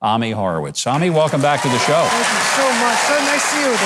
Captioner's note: audience cheering